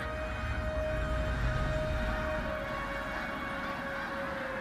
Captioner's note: birds squawking